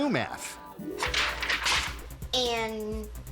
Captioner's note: paper shuffling